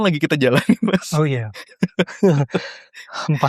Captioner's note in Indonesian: tertawa